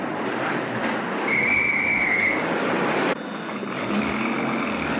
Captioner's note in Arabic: صافرة الشرطة; هدير المحرك